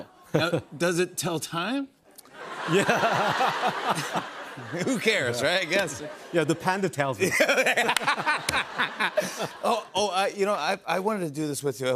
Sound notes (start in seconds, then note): 2.4 laughs